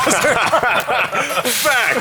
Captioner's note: laughter